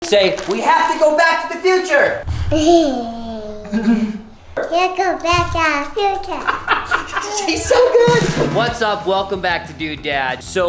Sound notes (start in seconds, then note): 2.3 giggling; 6.0 men laughing